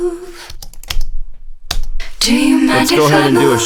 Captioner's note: keyboard clicking